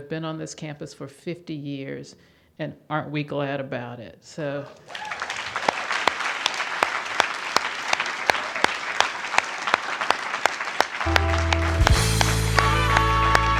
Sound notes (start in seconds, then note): 7.1 applause